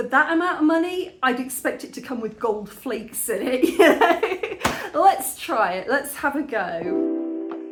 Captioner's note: laughing